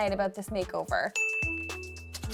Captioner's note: bell dings; pen scratches